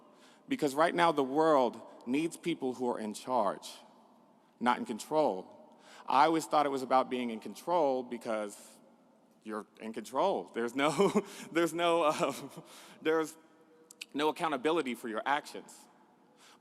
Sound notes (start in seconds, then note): none